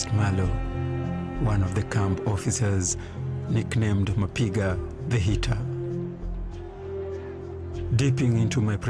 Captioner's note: swahili